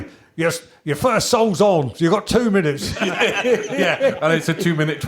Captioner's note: laughter